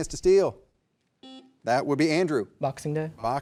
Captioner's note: buzzer buzzing